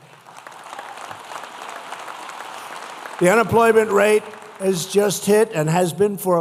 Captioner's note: applause